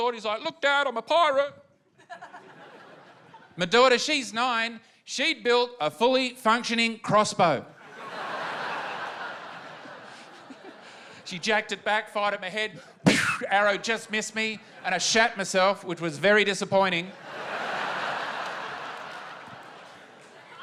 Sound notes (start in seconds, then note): 7.8 laughter; 17.1 laughter